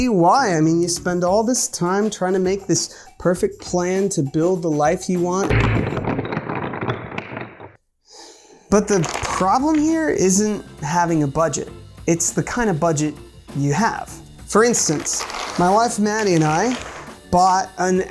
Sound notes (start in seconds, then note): 5.4 wooden blocks clunking; 8.1 sighs